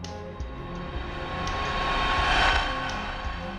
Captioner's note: air whooshing